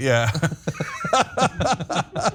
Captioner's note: laugh